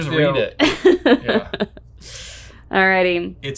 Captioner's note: laughing